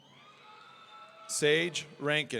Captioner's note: audience cheering